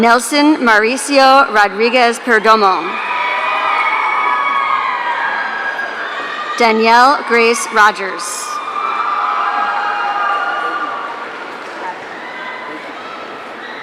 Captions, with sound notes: Nelson Maricio Rodriguez Perdomo. (audience cheering) Danielle Grace Rogers. (audience cheering)